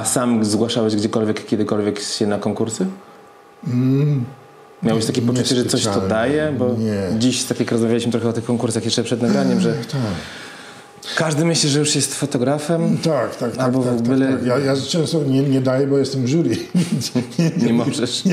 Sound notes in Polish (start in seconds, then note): 16.5 śmiech